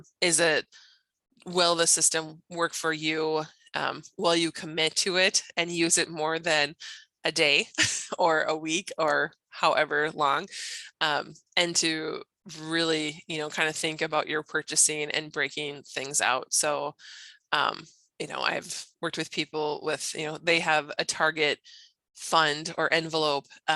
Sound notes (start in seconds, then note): 7.6 chuckles